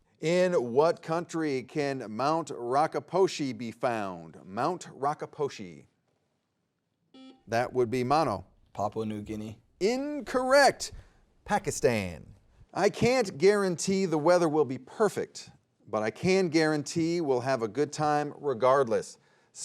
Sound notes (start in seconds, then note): 7.1 buzzer beeping